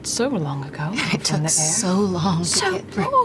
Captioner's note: laughing